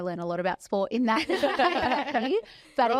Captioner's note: all laugh